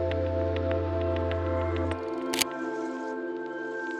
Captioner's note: camera clicking